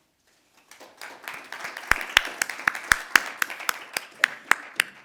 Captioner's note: audience applauding